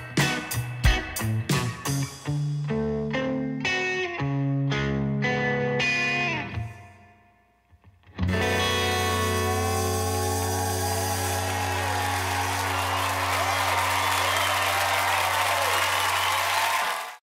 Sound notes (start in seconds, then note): 11.3 audience cheering